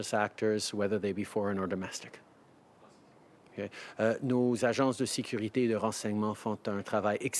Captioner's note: speaking French